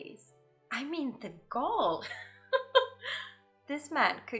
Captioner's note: laughs